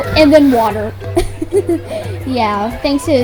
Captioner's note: giggling due to a wall of water